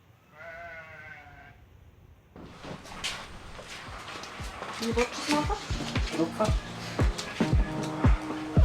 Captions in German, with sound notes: [auf Schweizerdeutsch] Wie willst du das machen? Hier drauf.